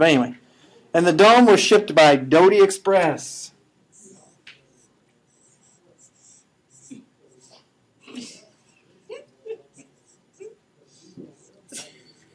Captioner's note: laughing